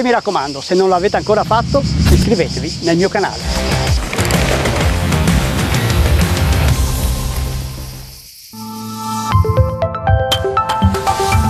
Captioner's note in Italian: Applauso